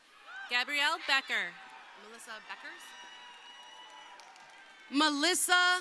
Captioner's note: crowd cheering